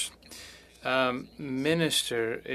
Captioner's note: speaking French